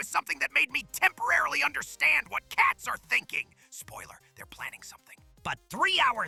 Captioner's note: whispers